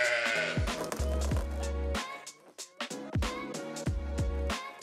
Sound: sheep baaing the word bad; fence creaking

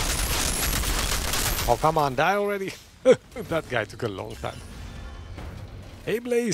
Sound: laughs

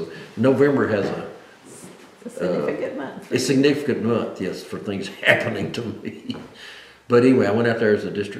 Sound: laughs

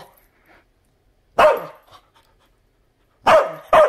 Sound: barking; barks; barking

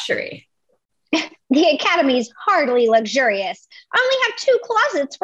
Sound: scoffs

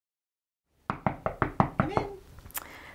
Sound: knock on door

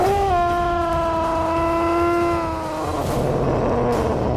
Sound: dinosaur roars

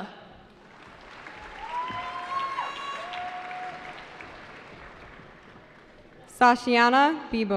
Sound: cheering

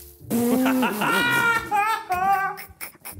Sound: laughing

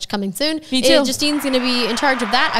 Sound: audience cheering

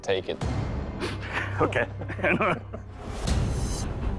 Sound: laughs

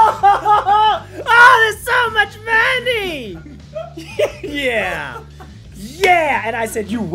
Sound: laugh

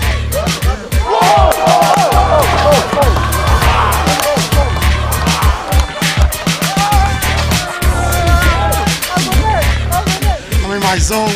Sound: rhythmic music playing; cheering and applauding

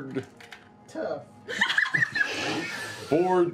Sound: laughter

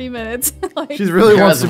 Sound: laughs

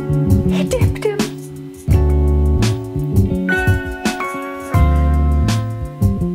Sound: soft jazz music; gasps

